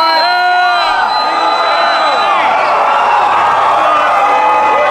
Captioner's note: crowd cheering